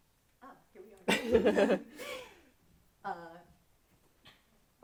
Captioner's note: laughing